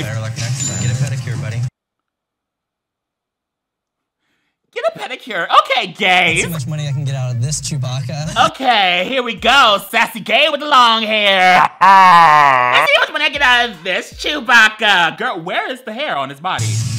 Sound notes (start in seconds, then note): 11.3 laughs